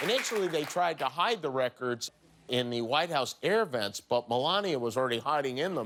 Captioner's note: cheers and applause